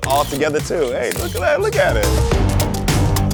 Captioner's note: camera clicking; upbeat music